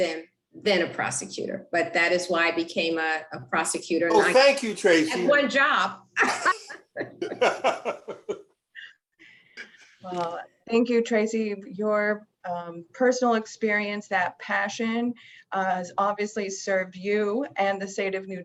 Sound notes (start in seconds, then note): 8.9 laughing